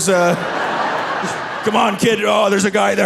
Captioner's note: audience laughing